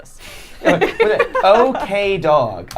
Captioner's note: laughing